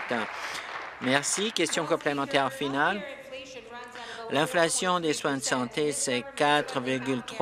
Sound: applause

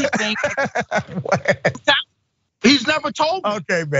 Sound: laugh

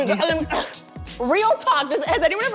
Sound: clears throat

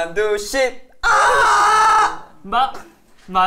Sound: screaming

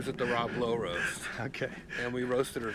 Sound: laughs

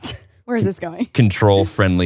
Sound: laughs

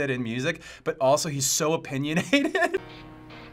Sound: laughs

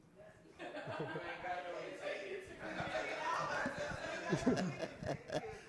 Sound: laughter

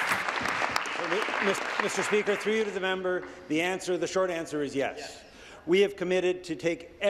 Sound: applause

